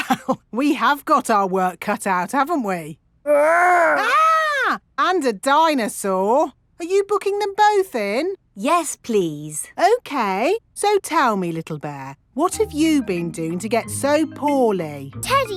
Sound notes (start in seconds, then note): 0.0 chuckling; 3.6 mock screaming